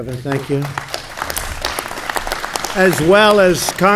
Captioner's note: applause